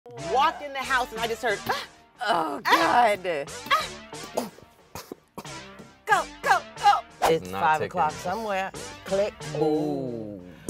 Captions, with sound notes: (upbeat music) - Walk in the house and I just heard "Ah". - Oh God. - "Ah Ah Ah" (choking) - Go! Go! Go! - It's five o'clock somewhere, Click. Ooh